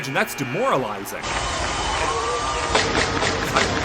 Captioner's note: buzzer buzzes